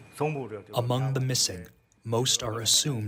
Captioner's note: through translator